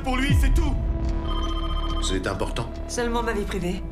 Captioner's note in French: dring!